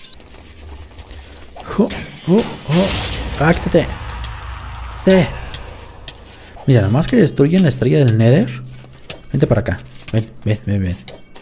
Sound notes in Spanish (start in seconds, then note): 1.6 ruidos de ataque